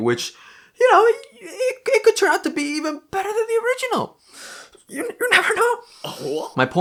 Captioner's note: voice shaking and squeaky